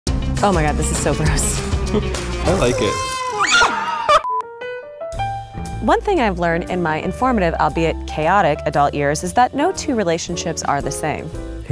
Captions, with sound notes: - Oh my God, this is so gross. - I like it. (screams) (peaceful jazz music) - One thing I've learned in my informative, albeit, chaotic adult years is that no two relationships are the same.